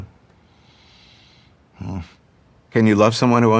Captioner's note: sighs